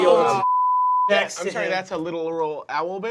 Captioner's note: they exclaim